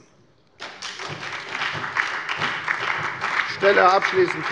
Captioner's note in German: Beifall bei der FDP und bei Abgeordneten der SPD